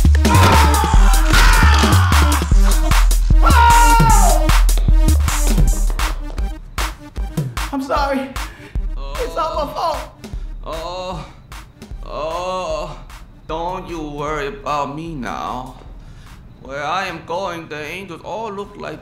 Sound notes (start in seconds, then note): 0.0 bones crack; 10.6 groaning; 10.6 groaning continues